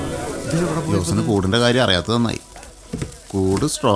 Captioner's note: indistinct chatters